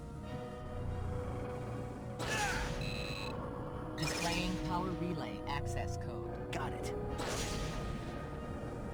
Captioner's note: beeping